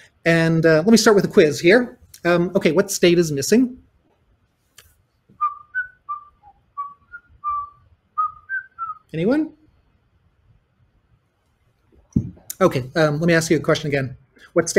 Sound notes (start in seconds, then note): 5.3 whistling